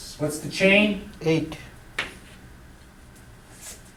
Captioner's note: voiceover